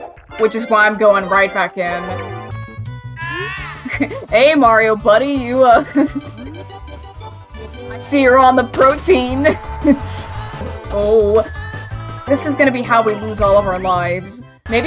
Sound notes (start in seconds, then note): 5.7 chuckling